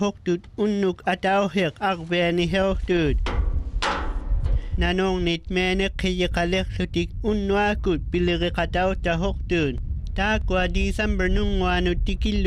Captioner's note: speaking inuktutut